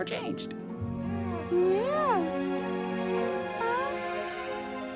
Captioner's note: baby coos